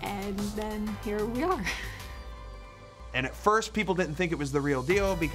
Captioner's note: laugh